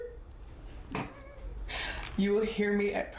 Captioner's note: laughs